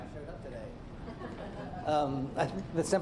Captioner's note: laughter